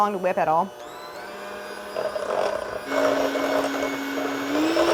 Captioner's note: mixer whirring